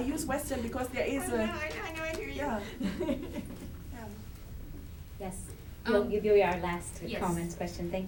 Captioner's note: chuckles